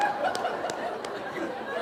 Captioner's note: laughter